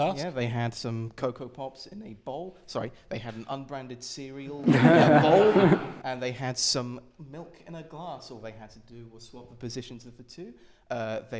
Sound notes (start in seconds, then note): 4.6 laughter